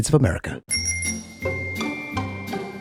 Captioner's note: bell jingles softly; mellow festive music